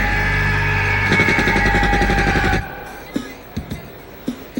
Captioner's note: gunshots fire